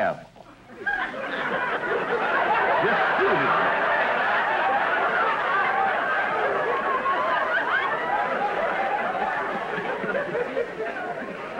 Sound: audience laughter

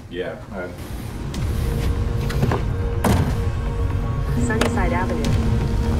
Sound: suspenseful music; truck door bangs

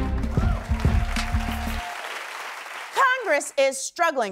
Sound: cheering and applause

